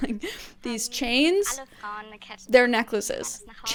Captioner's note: speaking in German